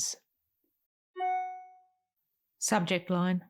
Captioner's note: email sound